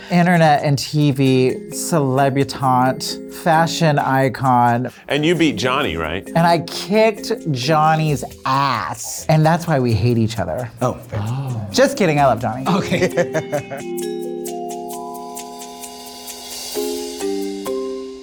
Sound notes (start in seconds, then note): 15.1 laughs; 15.5 bright music